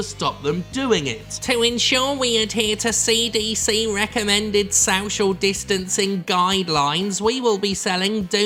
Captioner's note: nasally voice impression